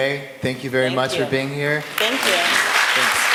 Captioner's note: applause